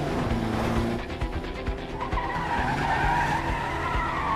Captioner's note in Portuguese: pneus cantando